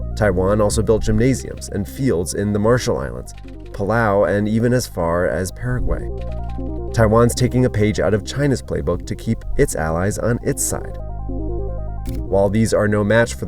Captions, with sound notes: Taiwan also built gymnasiums and fields in the Marshall Islands, Palau, and even as far as Paraguay. (camera clicks) Taiwan's taking a page out of China's Playbook to keep its allies on its side. While these are no match